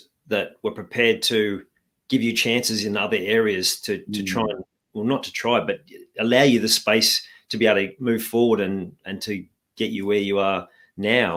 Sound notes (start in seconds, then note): none